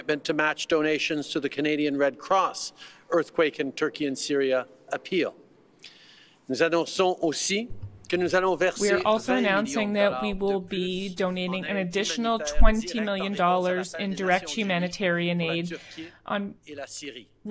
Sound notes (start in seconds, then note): 10.9 speaking French